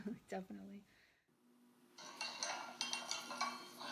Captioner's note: sound of a spoon stirring tea in a cup